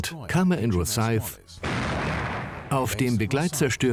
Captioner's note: gun firing